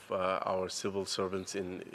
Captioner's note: speaking French